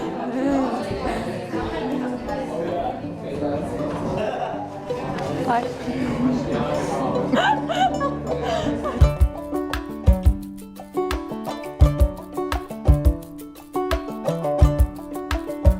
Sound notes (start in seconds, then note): 0.3 they both laugh; 6.9 laughing hysterically